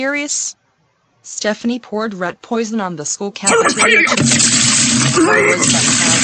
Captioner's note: on computer throwing up